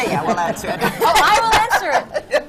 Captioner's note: laughter